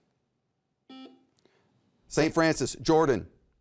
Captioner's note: buzzer beeps